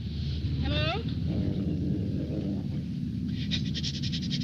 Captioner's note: wolf growling